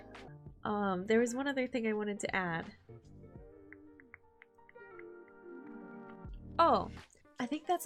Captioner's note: clicking mouth noises